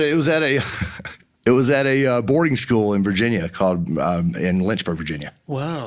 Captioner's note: chuckles